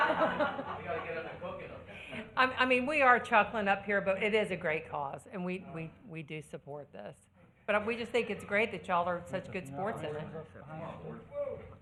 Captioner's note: laughter